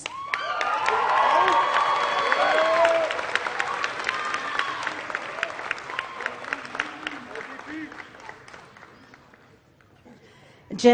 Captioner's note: applause